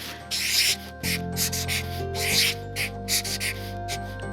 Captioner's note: pen scribbling